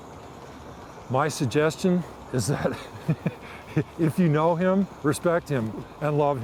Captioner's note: laughing